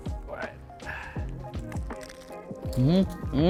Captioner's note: lettuce crunching